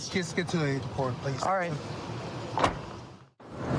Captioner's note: car door closes